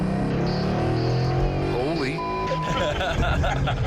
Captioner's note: engine roars